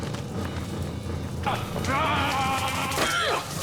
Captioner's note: dark elves yelling; Damara grunting